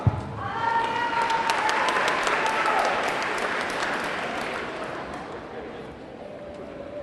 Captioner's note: audience cheering; audience clapping